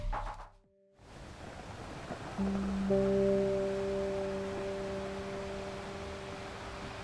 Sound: waves crashing

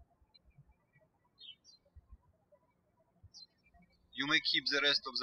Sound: birds chirping

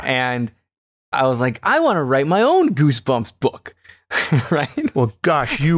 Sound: laughter

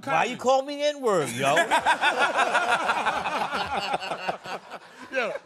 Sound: laughing

